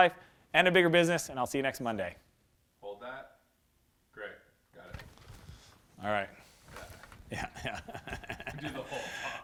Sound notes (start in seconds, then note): 7.2 laughter